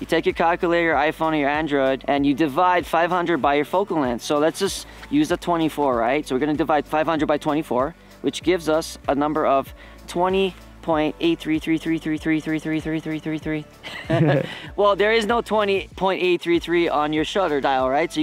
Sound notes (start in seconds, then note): 13.8 laughs